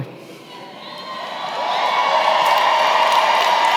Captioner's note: cheering & applause